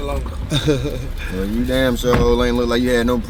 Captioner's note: man laughing